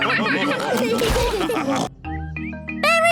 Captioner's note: all laugh